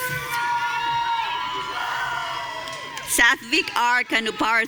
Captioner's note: audience cheering